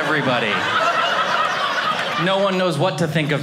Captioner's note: audience laughing